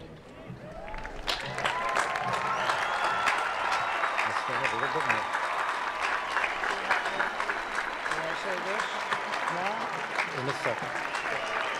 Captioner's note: applause